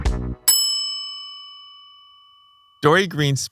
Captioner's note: bell dings